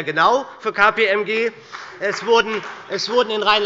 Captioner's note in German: Heiterkeit und Beifall bei der SPD